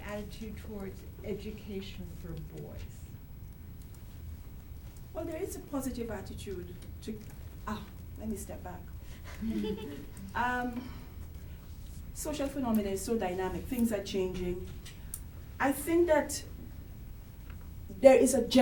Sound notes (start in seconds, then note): 9.2 chuckles